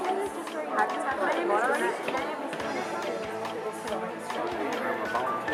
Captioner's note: people chattering